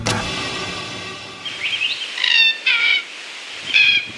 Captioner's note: birds sing